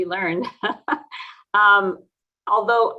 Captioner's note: chuckles